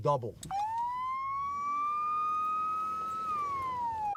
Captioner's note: police siren blares